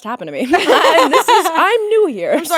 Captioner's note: both laughing